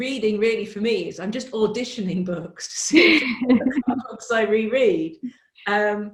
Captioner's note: laughs